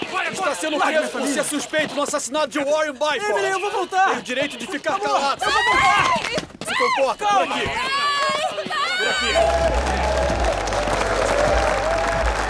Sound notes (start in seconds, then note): 3.1 speaking foreign language; 6.9 chattering